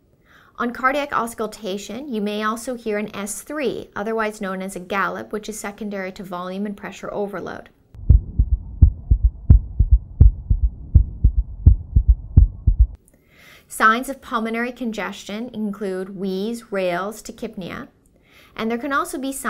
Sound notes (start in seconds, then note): 8.0 heart beating